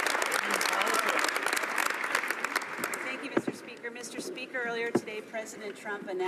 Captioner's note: some Applause